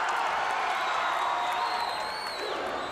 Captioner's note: crowd cheering